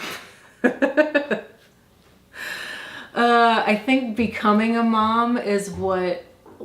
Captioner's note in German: lacht